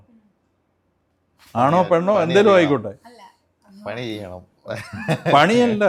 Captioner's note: laughter